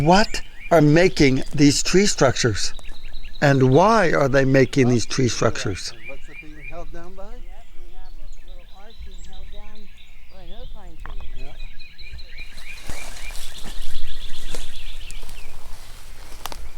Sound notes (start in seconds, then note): 6.1 birds chirping; 6.1 indistinct chatter; 12.0 crackling footsteps; 14.2 birds chirping